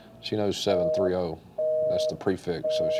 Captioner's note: busy signal beeps